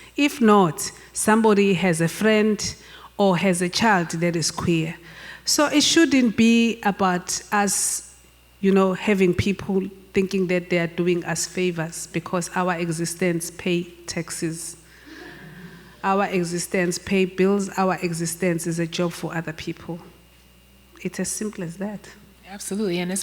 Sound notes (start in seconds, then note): 15.1 laughing